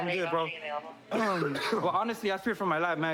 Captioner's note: coughs